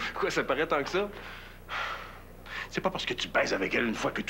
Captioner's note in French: Il soupire